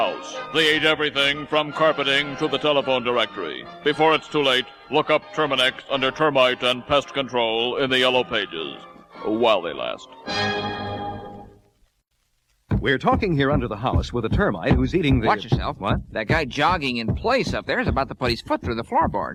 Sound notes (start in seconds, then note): 12.6 pounding